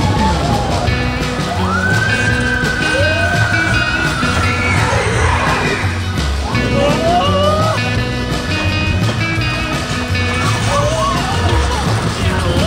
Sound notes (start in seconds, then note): 1.4 exciting music; 6.5 shouting excitedly